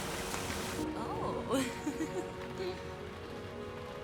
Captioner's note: laughs